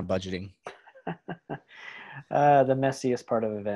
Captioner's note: laughs